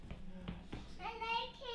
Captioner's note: speaking in alternate language